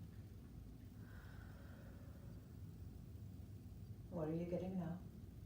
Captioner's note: breathing deeply